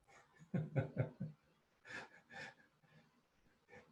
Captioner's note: laughing